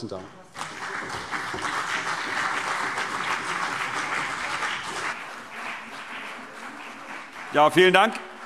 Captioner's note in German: Beifall CDU und BÜNDNIS 90/DIE GRÜNEN